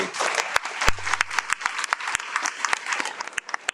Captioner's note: audience applauds